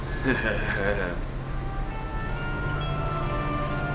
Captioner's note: chuckles